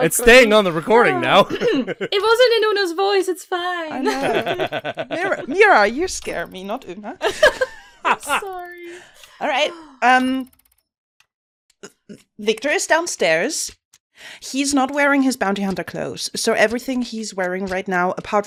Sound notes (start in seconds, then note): 7.2 laughing; 7.5 laughter; 10.2 shop ambience begins: fast ticking, whirring, and occasional dings